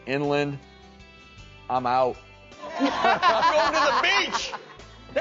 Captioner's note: audience laughing